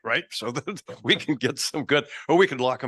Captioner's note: laughing